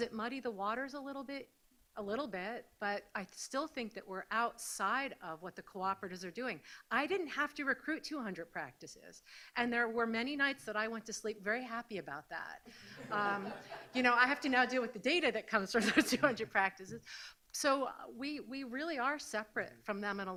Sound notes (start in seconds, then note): 12.9 audience laughs; 15.8 laughs